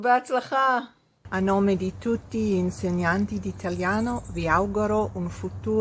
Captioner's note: speaks in foreign language